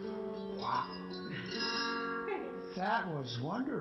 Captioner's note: acoustic music; woman laughs